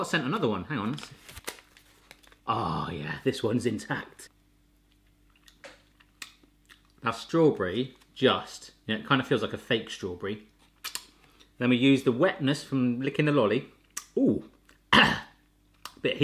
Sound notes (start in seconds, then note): 4.9 chewing